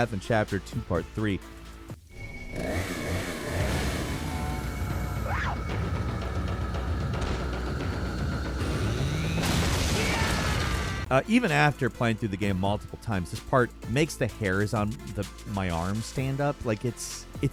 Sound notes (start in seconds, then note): 2.1 chainsaw whirring; 2.2 people screaming